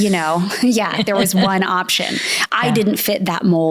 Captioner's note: laughs